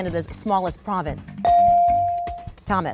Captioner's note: bell dings